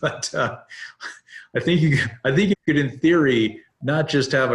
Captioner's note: chuckles